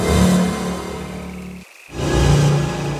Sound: none

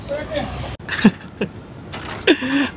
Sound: chuckles

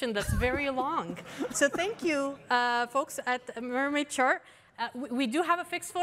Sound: laughter

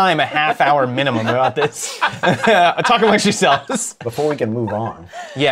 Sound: laughter

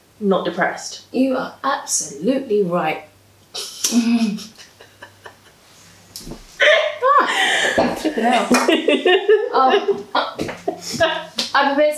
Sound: Cassie laughing

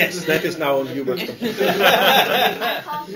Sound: laughter

